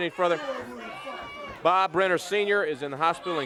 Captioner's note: crowd cheering